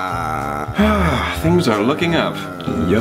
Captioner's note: sighs